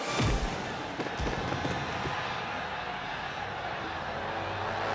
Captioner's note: thuds